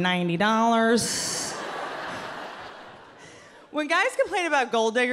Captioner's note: audience laughing